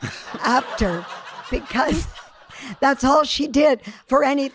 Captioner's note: audience laughing